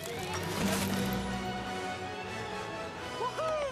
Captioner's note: none